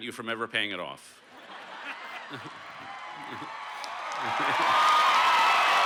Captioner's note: cheers